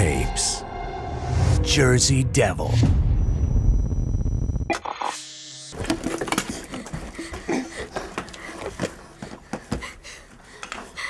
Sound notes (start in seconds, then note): 6.3 panting